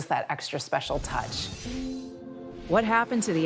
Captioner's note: swooshing